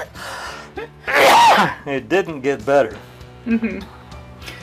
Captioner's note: coughs